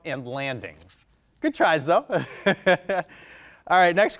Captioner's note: chuckles